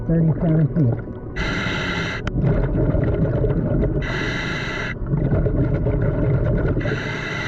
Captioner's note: gentle music continues; mouthpiece hissing